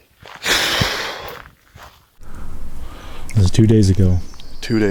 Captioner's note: sighs